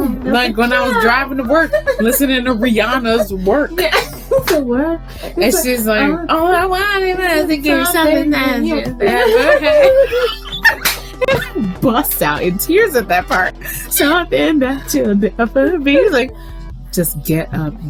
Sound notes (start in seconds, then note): 4.1 both cackle; 10.3 cackles mid song